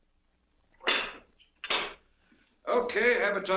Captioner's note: lock clacks